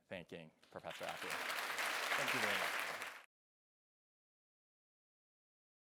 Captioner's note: audience applauding